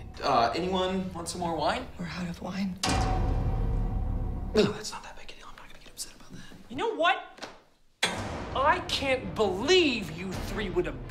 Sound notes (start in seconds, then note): 2.8 clang; 8.0 clang